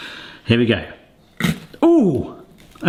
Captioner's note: peach crunches